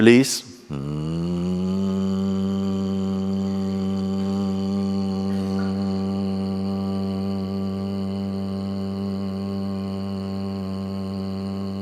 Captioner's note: long buzzing sound